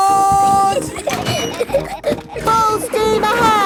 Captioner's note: giggling